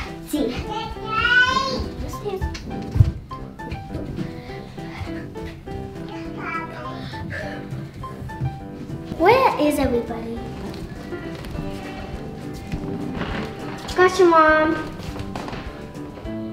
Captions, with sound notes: (child talking) Where is everybody? Got you, mom.